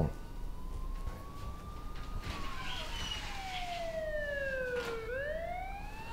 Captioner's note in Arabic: صافرات الإنذار في حالات الطوارئ تدوي